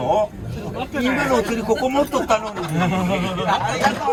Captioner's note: laugh